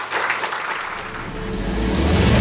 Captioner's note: audience applauds; upbeat music